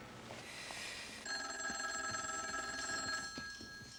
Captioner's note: telephone ringing